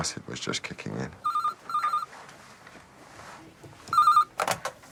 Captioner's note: phone rings